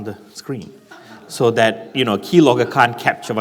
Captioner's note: laughing